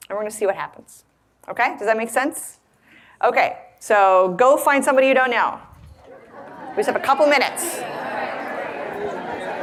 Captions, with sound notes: We're gonna see what happens. Okay, does that make sense? Okay, so go find somebody you don't know. (audience conversing) We just have a couple minutes.